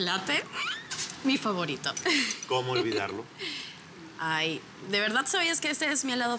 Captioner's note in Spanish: Ríe